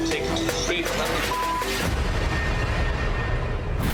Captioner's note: beep; ominous music